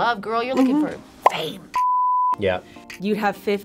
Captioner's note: beep